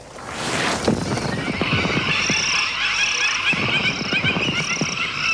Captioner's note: birds cry and caw